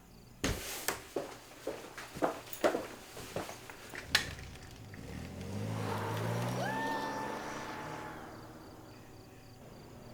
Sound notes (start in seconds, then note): 5.4 engine roaring; 5.6 Zooey screams; 9.9 crickets chirping